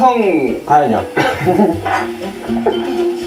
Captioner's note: haha